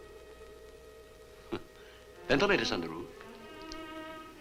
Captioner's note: chuckles